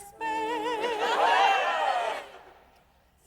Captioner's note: chorus cheers